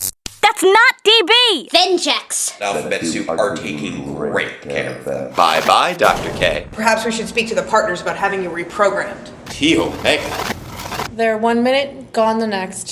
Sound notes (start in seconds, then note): 5.3 portal Opens